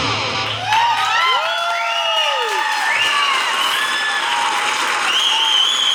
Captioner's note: crowd Cheers